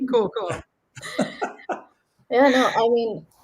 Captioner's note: laughs